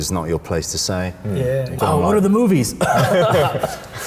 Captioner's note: coughs